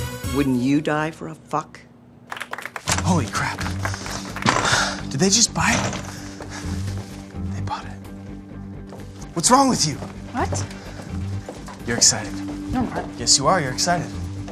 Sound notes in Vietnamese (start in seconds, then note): 2.2 vỗ tay